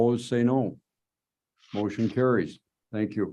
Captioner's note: silence